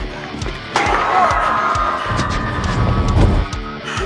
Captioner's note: dramatic music playing; people screaming